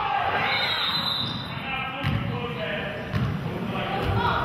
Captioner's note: whistle blows